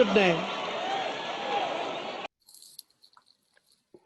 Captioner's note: cheering